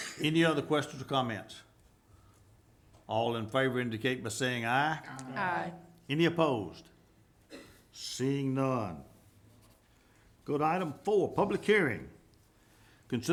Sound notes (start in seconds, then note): 5.3 group chanting